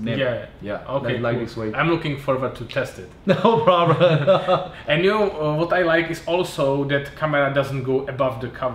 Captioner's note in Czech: smích